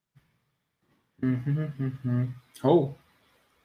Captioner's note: humming